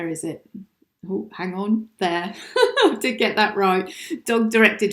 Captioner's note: laughs